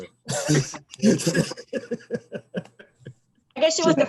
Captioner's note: laughs